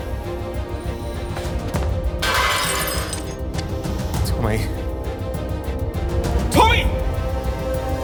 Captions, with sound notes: [GLASSES SHATTER] Tommy... Tommy!